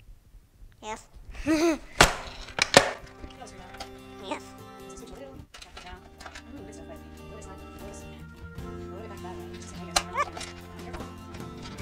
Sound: laughing

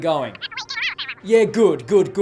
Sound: cartoonish phone speech

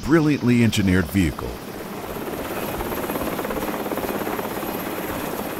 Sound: helicopter blades whirring

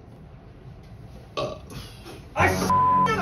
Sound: burp

